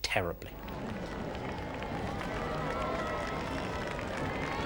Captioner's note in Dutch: publiek juicht